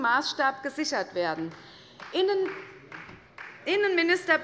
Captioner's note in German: Beifall bei Abgeordneten der CDU